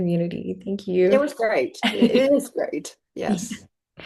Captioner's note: laughs